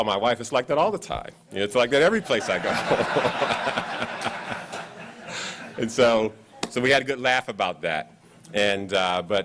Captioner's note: laughs